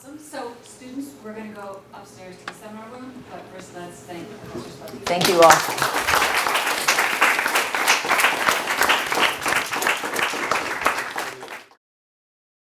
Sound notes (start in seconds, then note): 5.0 all applauding